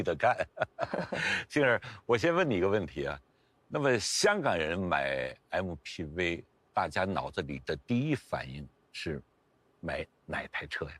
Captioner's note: laughs